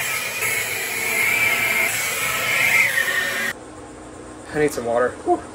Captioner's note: engine revving